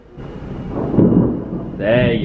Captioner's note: thunder rumbling